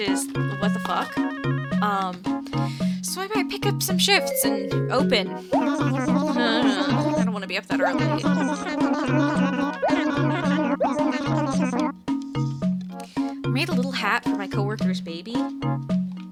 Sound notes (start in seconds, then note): 7.7 noises of slight distress